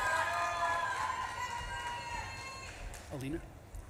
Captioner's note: audience claps and cheers